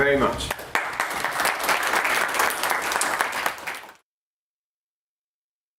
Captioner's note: applause